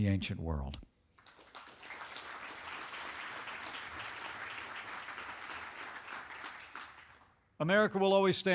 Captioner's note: applause